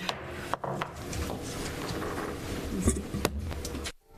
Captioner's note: gavel tapping